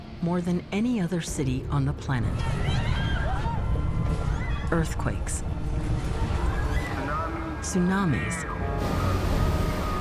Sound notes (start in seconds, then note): 2.4 people scream